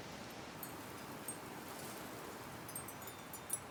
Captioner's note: grass rustling